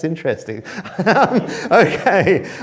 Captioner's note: chuckles